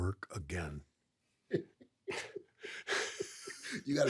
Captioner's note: both laugh